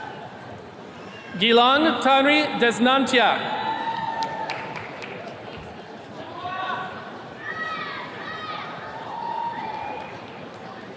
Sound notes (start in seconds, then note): 4.1 attendee clapping